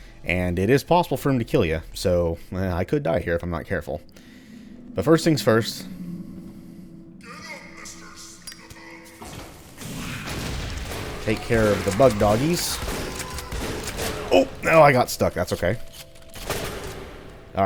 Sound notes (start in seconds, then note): 12.5 Shotgun blasting, Barrett howling